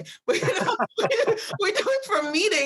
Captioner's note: they both laugh